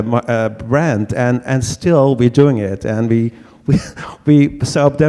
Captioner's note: laughs